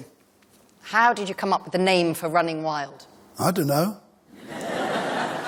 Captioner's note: laughter